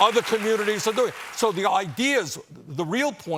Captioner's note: cheers and applause